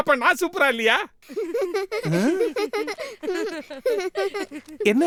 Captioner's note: both the children laugh